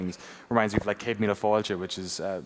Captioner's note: speaking Irish